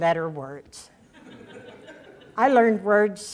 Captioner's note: audience laughter